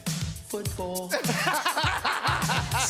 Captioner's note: laughter